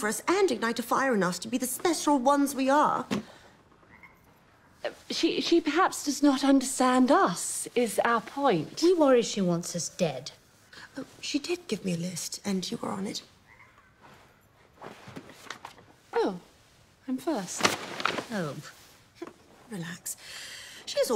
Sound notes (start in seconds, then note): none